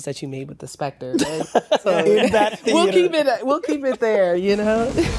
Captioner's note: laughter